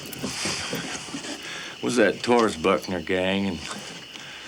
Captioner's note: none